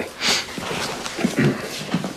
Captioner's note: clears throat